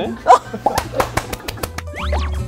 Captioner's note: seal clapping